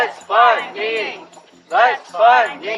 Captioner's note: chanting